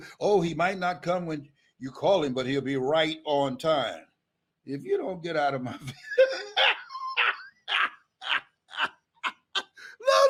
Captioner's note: Les laughs